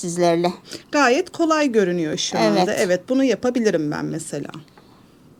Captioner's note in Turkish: homurdanır